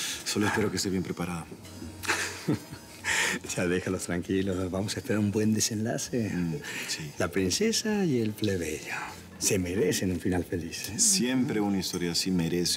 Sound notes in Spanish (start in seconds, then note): 2.0 Risas